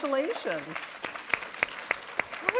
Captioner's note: applause